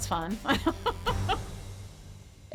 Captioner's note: chuckles